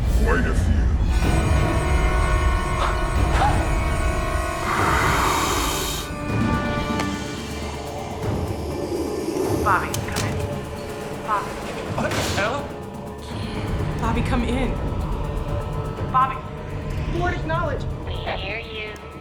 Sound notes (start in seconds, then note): 1.4 deafening sinister music; 4.9 officer growls; 8.3 monster wheezing; 15.1 intense music